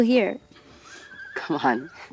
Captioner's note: horse whinnying